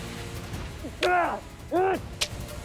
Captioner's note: grunting